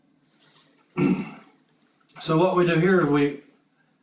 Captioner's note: cough